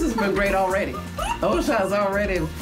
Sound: laughing

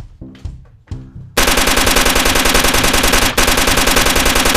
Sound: gun firing

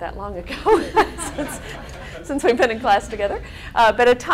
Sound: laughing

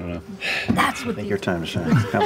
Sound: sighs; laughter

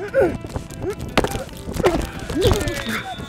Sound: grunting; whistle blowing

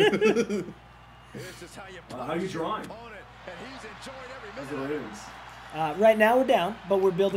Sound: laugh

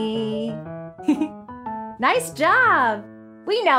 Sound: giggles

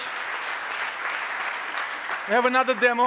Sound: applause

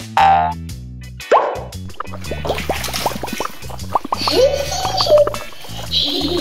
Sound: comical symphony; Gaga baby laughs; bubbles popping

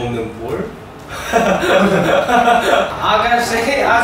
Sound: laughing

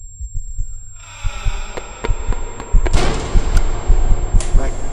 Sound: panicking 8-Bit Guy noises

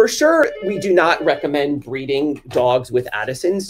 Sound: phone rings

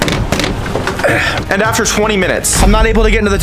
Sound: grunts

